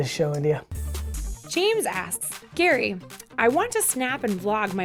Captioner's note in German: Voice-over